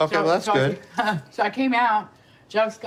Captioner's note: laughs